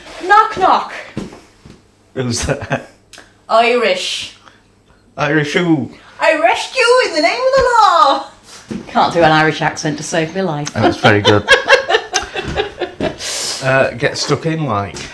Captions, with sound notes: "Knock knock." "Who's there?" "Irish." "Irish who?" "Irish stew in the name of the law." "I can't do an Irish accent to save me life." "That's very good." [ LAUGHS ] "Get stuck in, like"